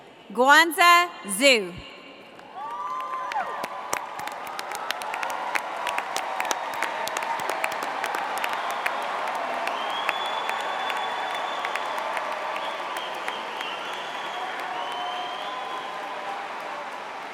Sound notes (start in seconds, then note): 2.3 applause; 2.4 cheers